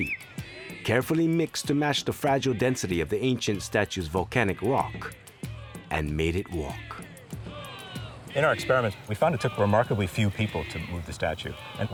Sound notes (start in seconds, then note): 7.4 crowd chanting "heave ho"